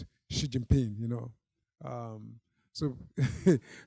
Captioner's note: chuckling